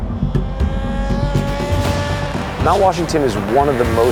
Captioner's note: car engine revving